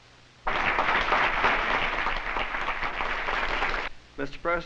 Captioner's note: applause